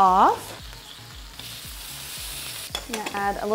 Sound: pan sizzles

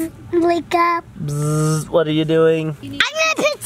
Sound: buzzing

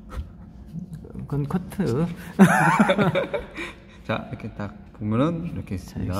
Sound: laughs

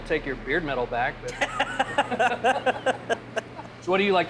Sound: laughing

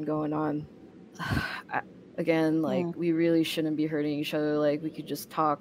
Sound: sighs

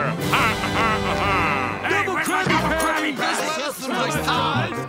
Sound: laughing; yelling

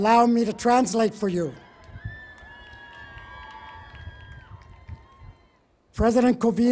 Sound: cheering

